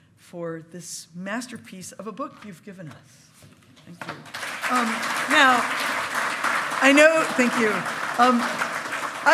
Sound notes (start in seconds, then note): 4.1 loud clapping